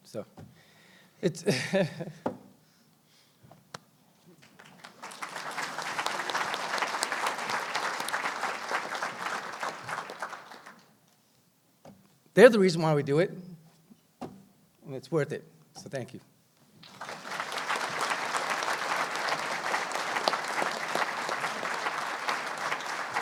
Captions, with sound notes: So it's, (laughs) (applause) they're the reason why we do it, and it's worth it. So thank you. (applause)